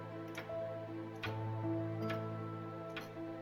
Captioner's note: clock ticking